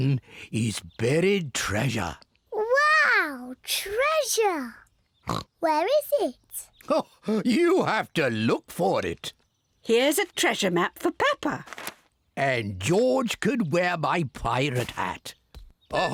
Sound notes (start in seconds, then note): 5.2 oinks